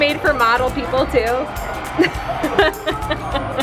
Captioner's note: laughter